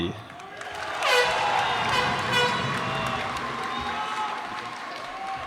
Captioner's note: cheers and applause